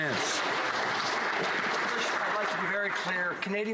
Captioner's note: some Applause